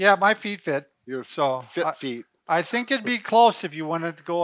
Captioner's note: laughing